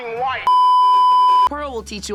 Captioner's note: beeeeeep